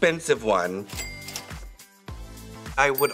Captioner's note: cash register dings